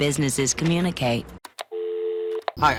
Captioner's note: click; dial tone